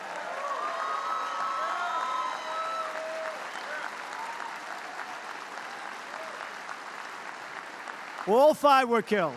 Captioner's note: applause